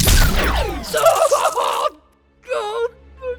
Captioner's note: cries of pain